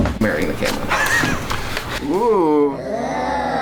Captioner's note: man laughs